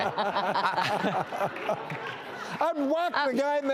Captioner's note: laughter